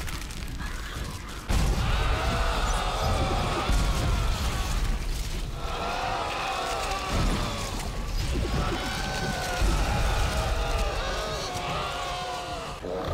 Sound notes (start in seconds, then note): 1.4 cries of agonizing pain; 12.8 angry slurping